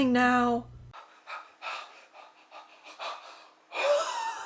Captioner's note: panting